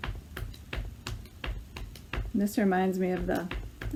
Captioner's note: rhythm tapping